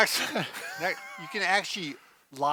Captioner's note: laughter